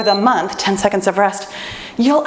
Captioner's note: timer beeps